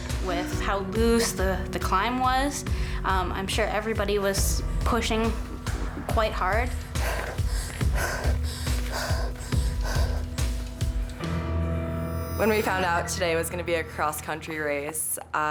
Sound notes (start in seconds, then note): 0.0 panting; 6.6 panting; 6.8 upbeat music